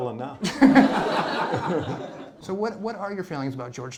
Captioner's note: laughter